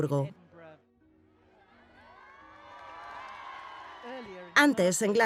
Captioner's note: crowd cheering